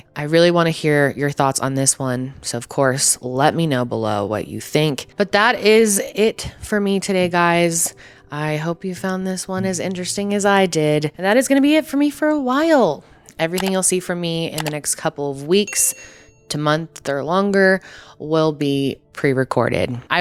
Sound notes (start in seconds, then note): 13.5 buttons clicking; 15.6 bell dings